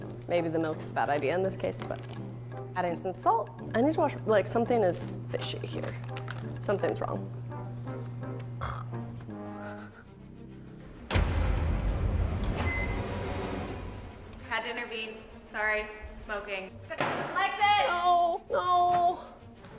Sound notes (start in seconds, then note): 8.6 snorts; 10.1 dramatic music; 12.4 microwave beeps